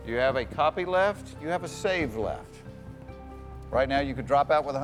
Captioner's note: none